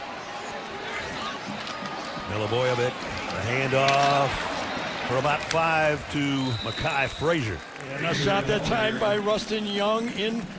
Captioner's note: whistle blowing